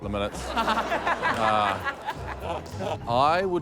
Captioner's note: laughter